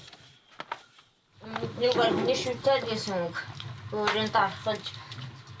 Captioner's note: foreign spoken audio